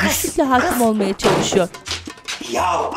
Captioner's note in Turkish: Kapı kapanma sesi